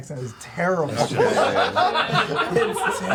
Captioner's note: laughter